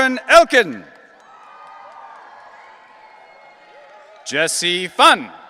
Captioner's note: audience cheering